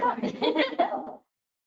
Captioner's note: laughs